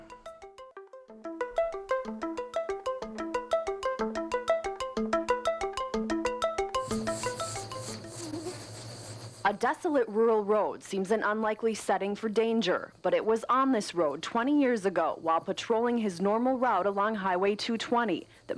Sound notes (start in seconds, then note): 0.2 quirky music; 6.7 insects buzzing